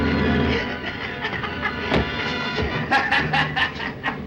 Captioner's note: Joe laughs